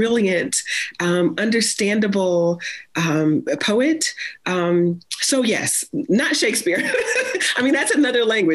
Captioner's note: laughs